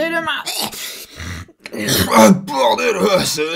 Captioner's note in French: voix normale